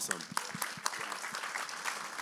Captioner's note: applause